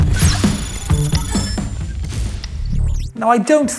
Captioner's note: electronics chime